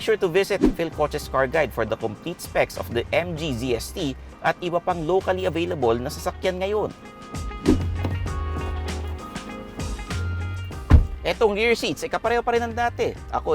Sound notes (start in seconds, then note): 10.8 door thuds